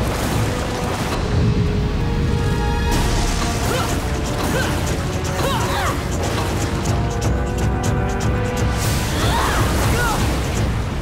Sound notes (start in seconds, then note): 3.2 grunting